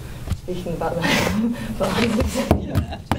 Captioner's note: laughs